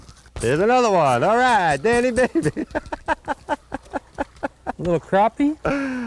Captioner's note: laughter